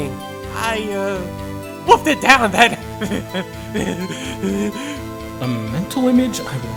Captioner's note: drools